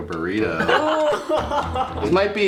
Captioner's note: all laugh